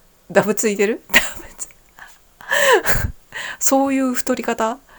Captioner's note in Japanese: 息をのむ音